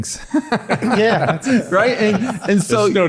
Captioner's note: everyone laughing